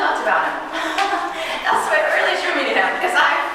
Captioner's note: chuckling